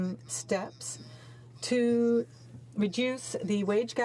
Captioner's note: speaking French